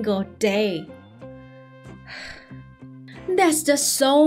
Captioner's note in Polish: westchnienie